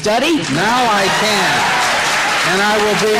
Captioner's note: audience cheering